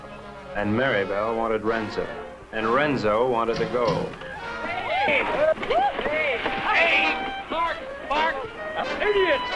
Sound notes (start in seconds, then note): 4.7 everyone exclaiming